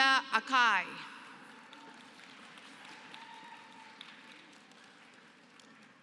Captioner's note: applause